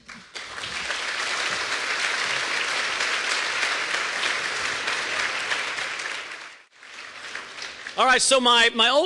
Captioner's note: applause